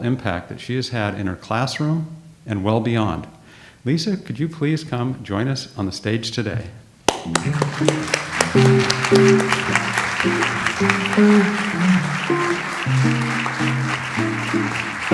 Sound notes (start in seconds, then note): 7.5 audience applauds; 9.3 light jazz music